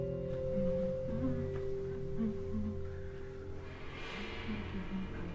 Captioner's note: Horatio humming